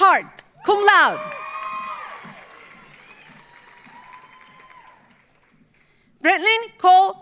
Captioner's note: audience cheering; audience applauding